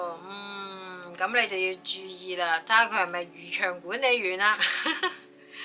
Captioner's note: laugh